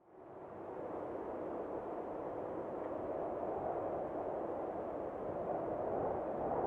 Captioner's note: wind howling